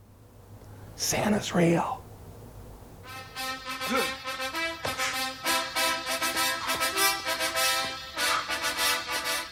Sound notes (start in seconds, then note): 2.9 intense music; 3.9 grunts